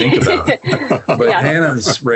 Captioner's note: laugh